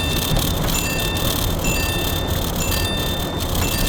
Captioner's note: text message noise